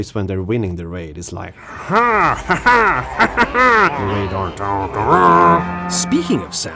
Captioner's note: imitates cackling